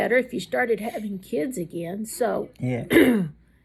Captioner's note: clears throat